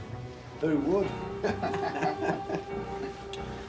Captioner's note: man sniggers